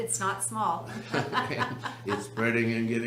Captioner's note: laughs